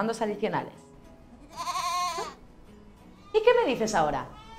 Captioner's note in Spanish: Se oye un rebaño de ovejas